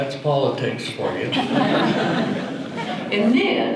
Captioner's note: audience laughter